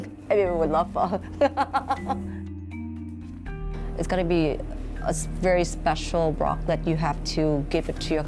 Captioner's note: laughs